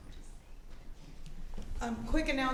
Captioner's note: whispering